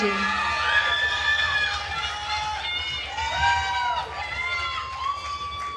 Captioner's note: attendees cheering and applauding